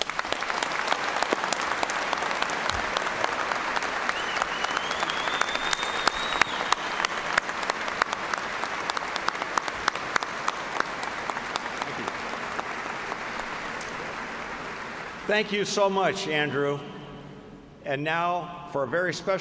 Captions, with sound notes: COMMUNITIES, AND HERE AT EKU. HERE IS TO LIMITLESS SUCCESS FOR YOU ALL. THANK YOU. [APPLAUSE]